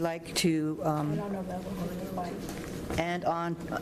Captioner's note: speaking faintly